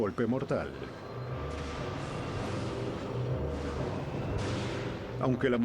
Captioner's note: trueno